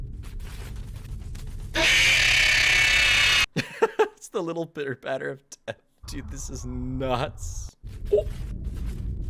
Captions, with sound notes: (Laughs) 'It's the little pitter patter of death.' Dude, this is nuts. Oh!